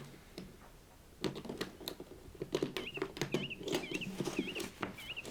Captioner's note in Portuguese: Estalos de fechadura